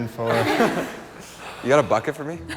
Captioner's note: laughing